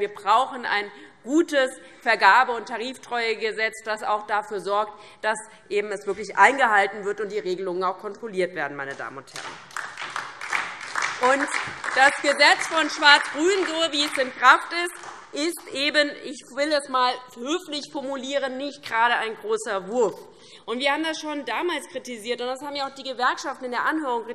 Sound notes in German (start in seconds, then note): 9.3 Beifall DIE LINKE und SPD